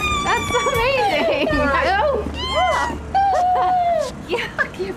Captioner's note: ellie squealing